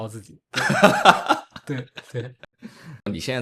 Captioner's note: laughs